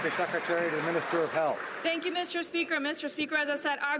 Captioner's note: some Applause